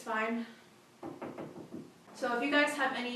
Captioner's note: knocks on counter